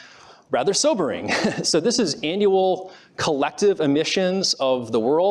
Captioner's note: laughs